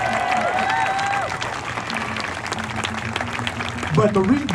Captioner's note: applause